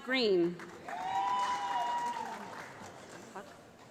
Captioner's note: applause